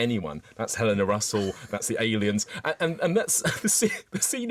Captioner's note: laughs